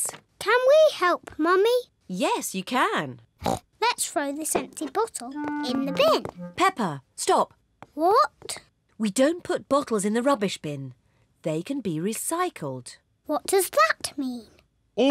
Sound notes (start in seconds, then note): 3.3 snorts